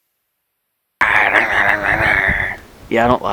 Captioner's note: man growling